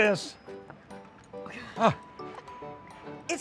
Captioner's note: laughs